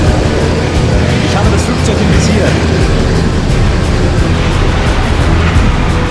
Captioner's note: speaking German